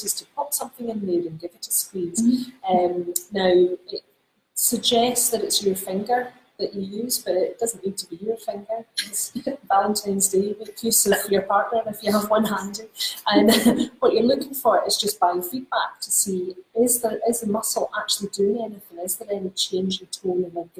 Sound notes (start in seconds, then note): 13.2 laughs